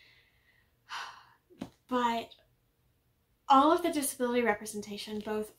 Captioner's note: sigh